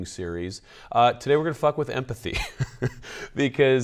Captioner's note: laughs